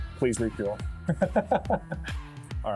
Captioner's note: laughter